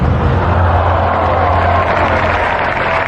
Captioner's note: cheering and applause; audience gasping